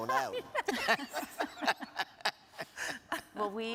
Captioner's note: everyone laughing